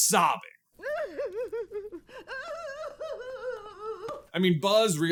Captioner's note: over dramatic sobbing